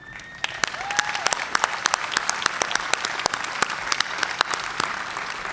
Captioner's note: cheers and applause